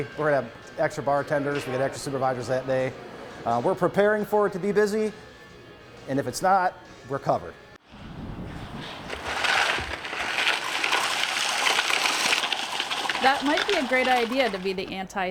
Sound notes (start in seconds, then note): 8.5 nats of salting sidewalk